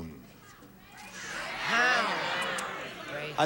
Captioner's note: audience shouting